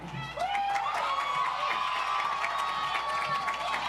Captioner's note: audience applauds